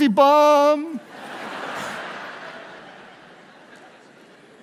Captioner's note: audience laughs